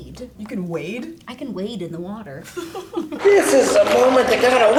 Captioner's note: girl laughs